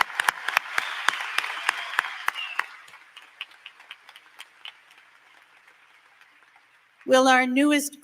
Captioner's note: applause